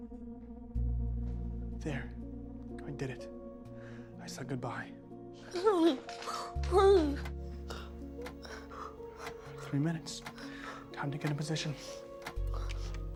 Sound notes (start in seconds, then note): 5.3 Mrs. Hill, muffled; 7.9 clock ticking